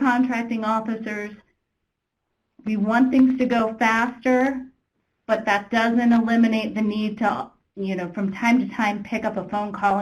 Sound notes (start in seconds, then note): none